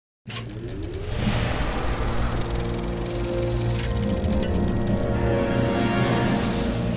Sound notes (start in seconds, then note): 0.6 film projector whirring; 2.5 cinematic melodic music